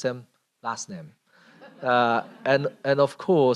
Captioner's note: laughter